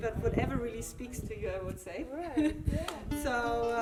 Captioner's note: laughs